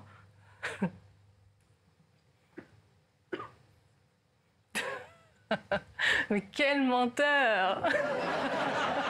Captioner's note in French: Rires